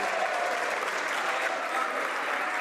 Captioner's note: some Applause